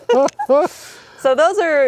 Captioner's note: laughing